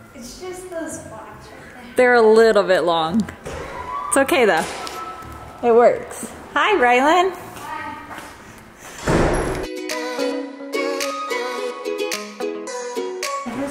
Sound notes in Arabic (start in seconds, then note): 8.9 إغلاق الباب